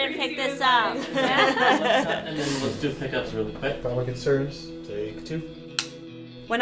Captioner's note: crew laughing and talking